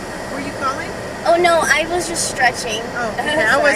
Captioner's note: giggles